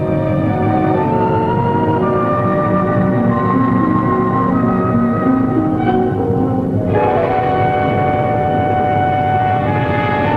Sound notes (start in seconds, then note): 2.0 plane engines rumbling; 6.1 gentle orchestral music